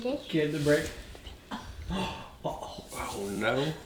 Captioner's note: gasps